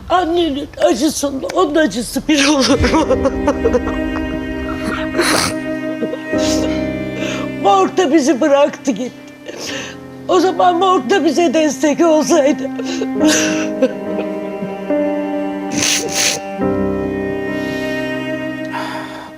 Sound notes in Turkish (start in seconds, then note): 6.0 homurdanır; 13.7 kahkaha